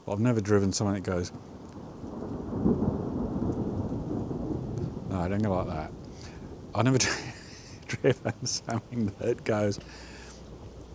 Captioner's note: sound of thunder